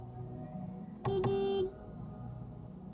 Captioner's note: beep beeep